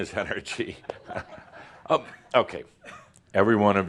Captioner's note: Adamus chuckles